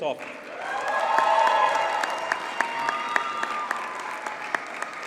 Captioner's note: audience cheers and applauds